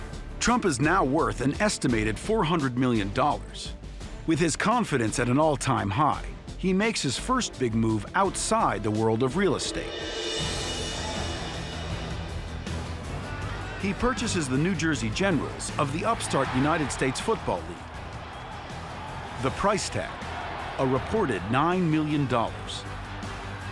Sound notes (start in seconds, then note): 10.1 dramatic music; 17.9 cheers and applause